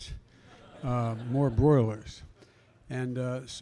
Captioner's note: laughter